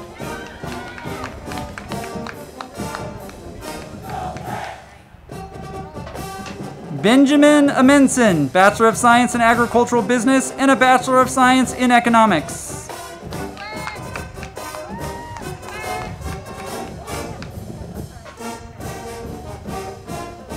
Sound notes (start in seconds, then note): 0.0 crowd clapping; 0.2 band music; 13.1 band music; 13.1 crowd clapping and cheering